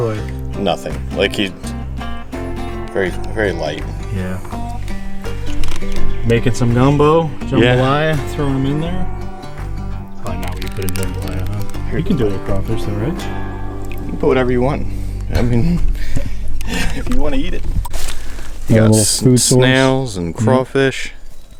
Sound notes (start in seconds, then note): 15.2 laughs